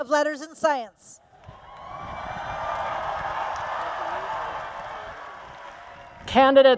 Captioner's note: applause and Cheers